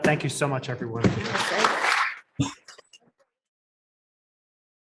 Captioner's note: audience applauds